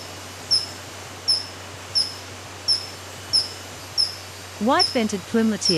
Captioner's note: bird chirping